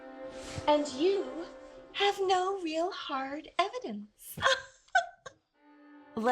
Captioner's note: laughs